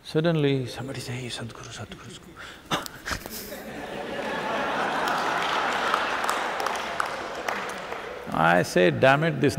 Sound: laughter/Applause

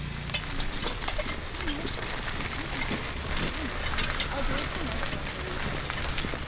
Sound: lawn mower approaching; rattling cart and feet crunching gravel

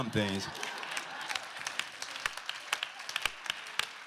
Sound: applause

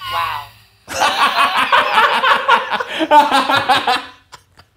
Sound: laughing

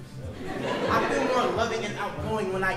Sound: audience laughing

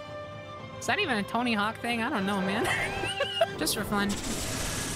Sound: laughter

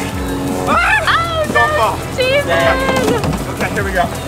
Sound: screams

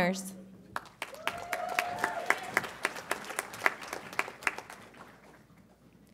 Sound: audience applauds and cheers

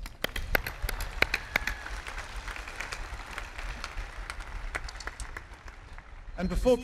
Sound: clapping

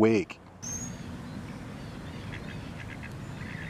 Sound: birds crying

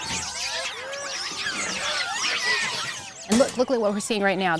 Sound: monkeys squawking

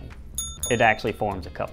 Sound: ding ding

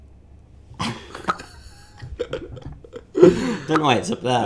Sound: laughing

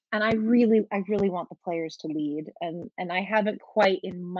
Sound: none

